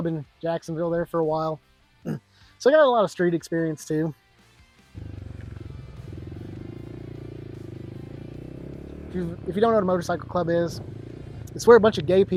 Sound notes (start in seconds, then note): 4.9 engine revving